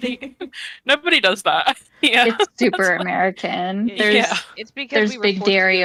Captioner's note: chuckle